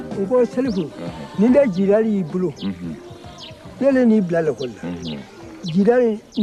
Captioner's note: Salif Keïta's father speaks in his native language